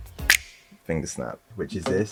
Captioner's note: snap